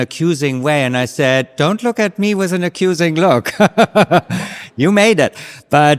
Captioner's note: laughs